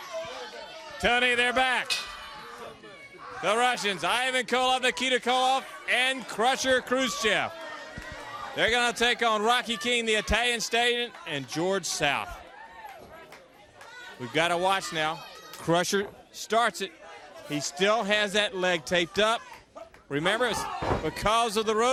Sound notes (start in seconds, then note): 0.2 crowd chatter; 3.1 bell ringing